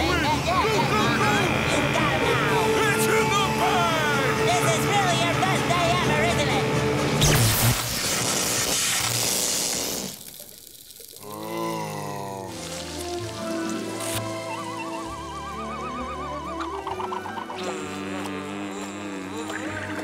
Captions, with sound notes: Go go go! It's in the bag! This is really your best day ever, isn't it? [zapping] [groaning]